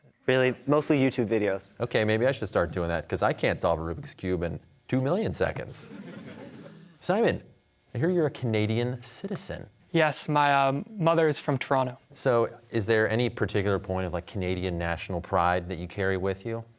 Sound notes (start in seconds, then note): 5.8 audience chuckles